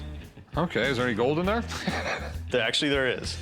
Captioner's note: laughs